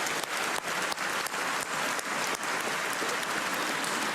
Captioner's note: cheers and applause